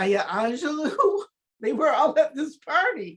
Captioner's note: laughs